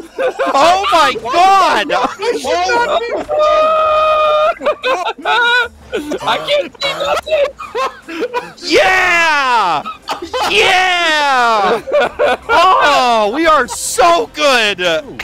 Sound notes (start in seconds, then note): 0.0 screaming/laughter; 5.8 group laughter; 8.5 hysterical laughter